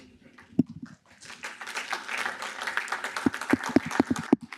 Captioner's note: applause